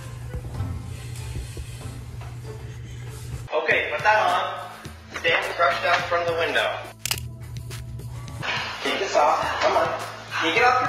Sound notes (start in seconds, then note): 6.9 snap